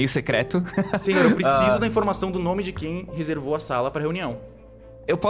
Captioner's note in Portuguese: Risada nervosa